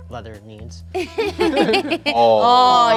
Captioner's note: laughing